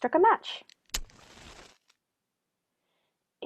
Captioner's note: match strike